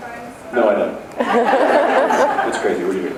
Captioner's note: laughs